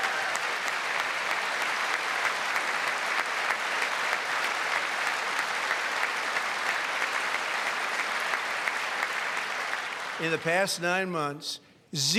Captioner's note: applause